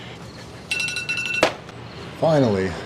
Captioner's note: alarm